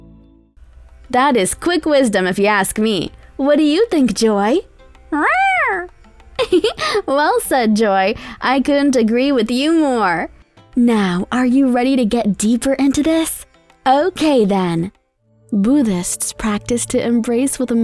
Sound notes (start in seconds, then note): 5.1 Joy meows; 6.4 giggles